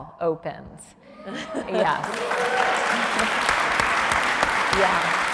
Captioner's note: audience cheers